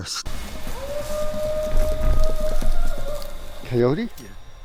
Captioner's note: howling